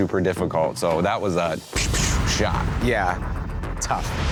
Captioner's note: imitates gunfire